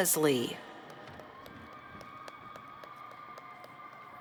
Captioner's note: cheers